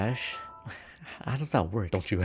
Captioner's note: confused sounds